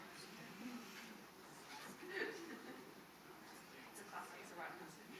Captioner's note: crowd chattering indistinctly